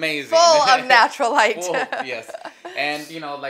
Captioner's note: laughs